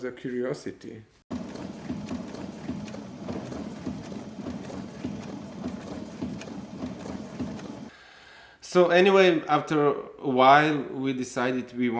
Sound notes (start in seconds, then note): 1.3 machine humming